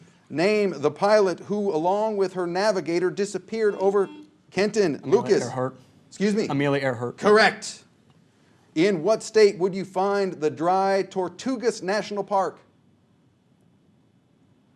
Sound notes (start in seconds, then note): 3.6 buzzer sounds